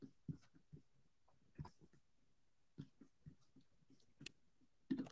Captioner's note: mouse clicking continues